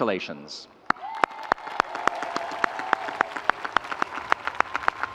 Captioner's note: audience applauding